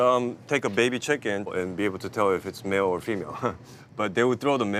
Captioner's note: laughs